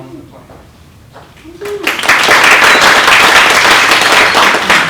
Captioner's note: applause